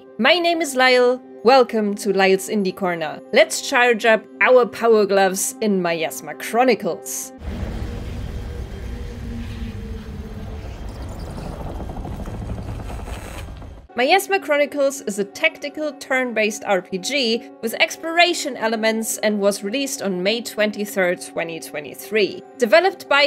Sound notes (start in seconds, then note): 12.8 particle mixed with electronic noises